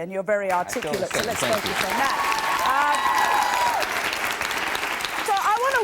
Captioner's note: applause